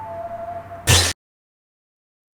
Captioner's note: TV static